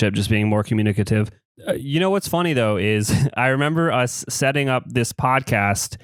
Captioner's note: laughs